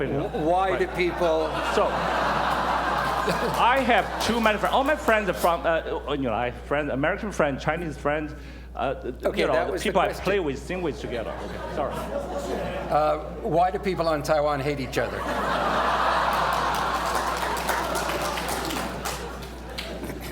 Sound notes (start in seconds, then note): 15.0 laughter; 16.0 applause